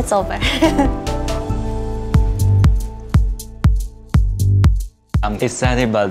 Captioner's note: nervous giggle